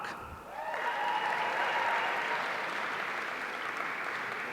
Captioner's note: audience cheering